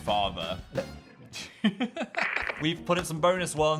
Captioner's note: Phil laughs